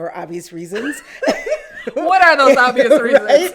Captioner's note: laugh